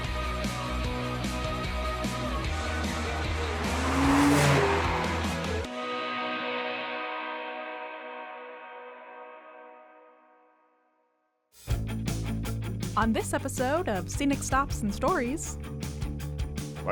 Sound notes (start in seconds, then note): 3.1 calm music; 3.1 motor engine revving